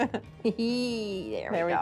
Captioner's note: laughter